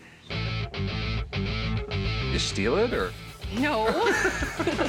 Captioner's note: laughs